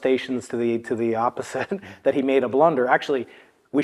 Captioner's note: laugh